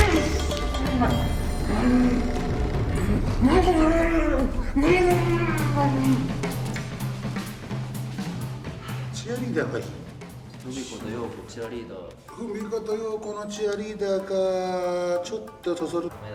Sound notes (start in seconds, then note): 9.5 speaking in foreign language